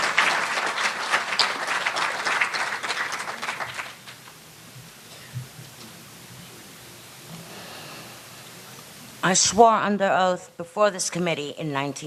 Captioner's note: applause